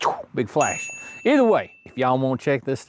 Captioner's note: ding